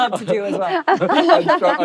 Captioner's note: laughter